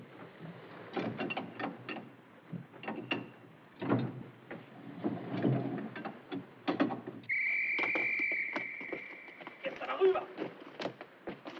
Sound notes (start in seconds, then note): 7.2 whistle Blows